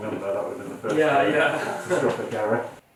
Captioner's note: laughs